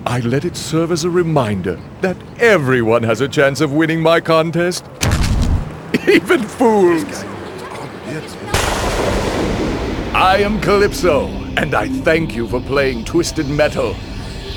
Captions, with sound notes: I let it serve as a reminder that everyone has a chance of winning my contest..., [Slam] even fools! [Thunder] I am Calypso, and I thank you for playing Twisted Metal.